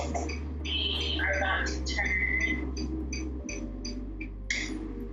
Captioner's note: clicking turn signal